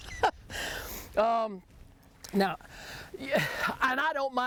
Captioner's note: laughs